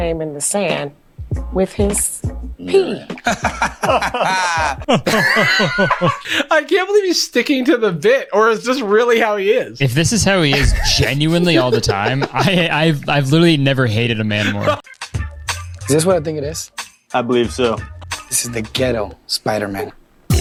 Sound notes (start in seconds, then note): 2.6 laughs; 5.2 fake laughs